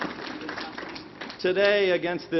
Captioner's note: applause